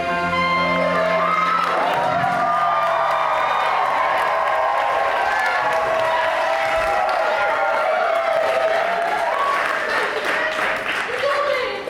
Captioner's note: audience cheers